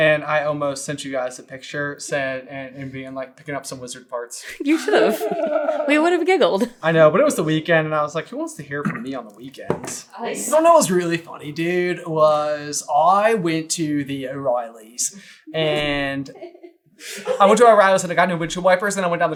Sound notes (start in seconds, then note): 4.5 giggles